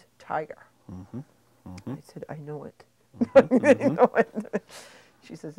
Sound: chuckling

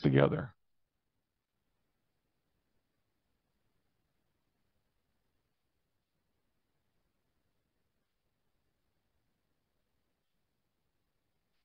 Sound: silence

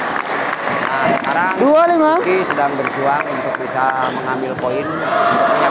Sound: applause

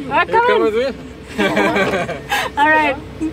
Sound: laughter

